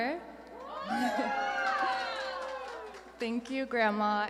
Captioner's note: audience cheering and applauding